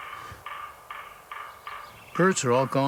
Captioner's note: knocking echo